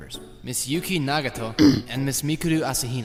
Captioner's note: throat clearing noise